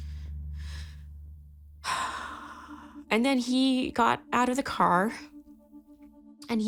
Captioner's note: sighs